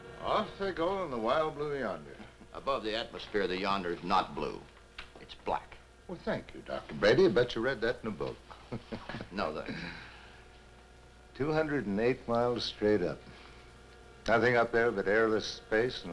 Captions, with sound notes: Off they go in the wild, blue yonder. - Above the atmosphere, the yonder is not blue. It's black. - Well, thank you, Dr. Brady. I bet you read that in a book. - No, thank you. (Dan chuckling) - 208 miles straight up. Nothing up there but airless space